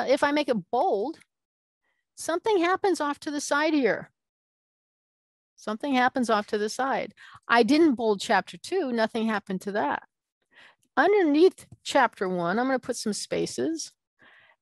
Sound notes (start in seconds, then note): none